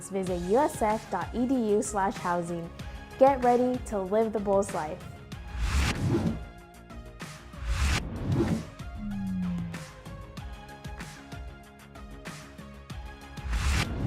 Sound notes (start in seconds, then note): 5.6 logo swooshing; 5.6 upbeat music continues